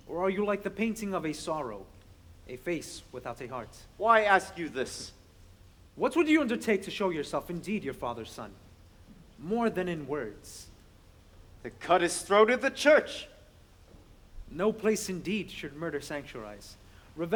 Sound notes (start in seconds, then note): none